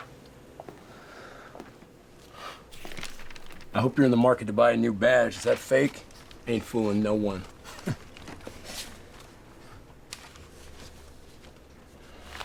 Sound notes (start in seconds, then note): 7.6 chuckles